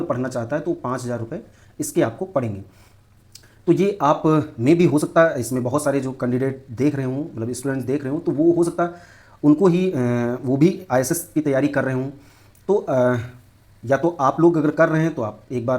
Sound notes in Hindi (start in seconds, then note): 3.2 नाक से की जाने वाली आवाज़